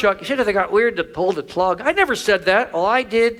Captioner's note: none